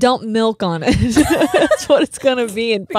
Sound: both laugh

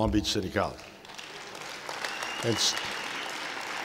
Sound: applause

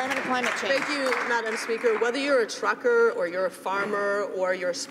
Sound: some Applause

